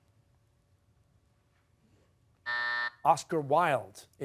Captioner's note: buzzer